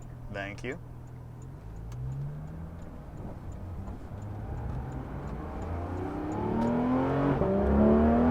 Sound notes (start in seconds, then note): 2.5 engine revving